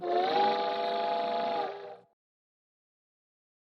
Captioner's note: train whistle